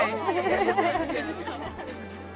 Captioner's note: laughing; gentle music